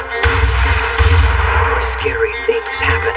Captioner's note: shots fing